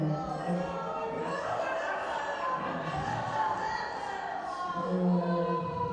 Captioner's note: laughing